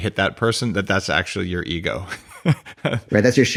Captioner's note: laughs